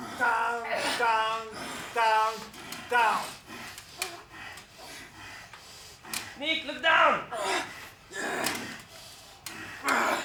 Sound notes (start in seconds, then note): 3.6 breathing heavily; 8.1 grunting